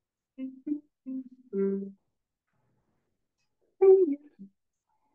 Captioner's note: audience chatters faintly